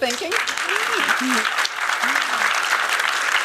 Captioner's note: applause